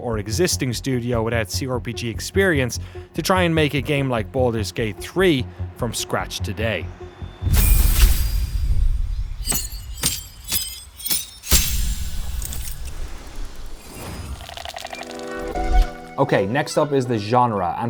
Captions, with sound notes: or existing studio without CRPG experience to try and make a game like "Baldur's Gate 3" from scratch today. (interface chimes) (metal clanking) (spell whooshes) Okay, next up is the genre.